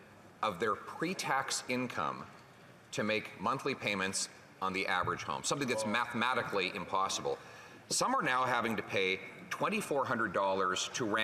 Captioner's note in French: voix de l'interprète